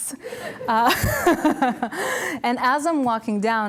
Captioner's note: laughter